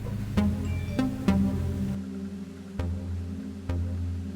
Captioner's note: notification dinging; pensive synth music continues